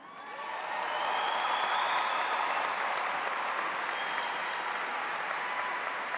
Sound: audience applauds; cheers

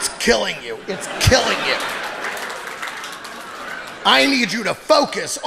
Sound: audience applauding

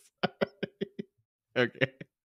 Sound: cackles

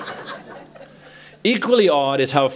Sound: laughter

